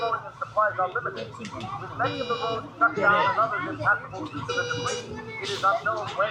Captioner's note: indistinct radio chatter and alarm blaring